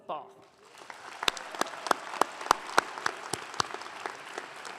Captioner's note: audience clapping